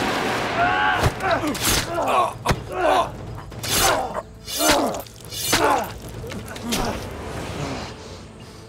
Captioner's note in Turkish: Kılıç sesleri; Dövüş sesleri